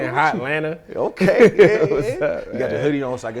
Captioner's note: laughing